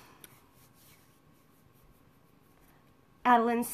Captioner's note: hands rubbing